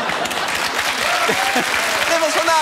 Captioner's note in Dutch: applaus en gejuich